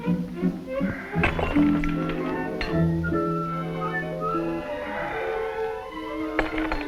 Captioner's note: dramatic music; glasses shattering; Fedor exhaling